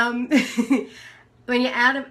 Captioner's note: laughs